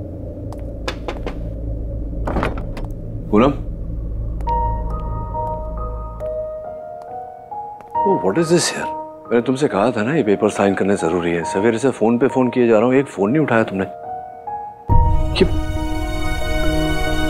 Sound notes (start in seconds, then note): 0.8 knocks on the door; 2.2 door opens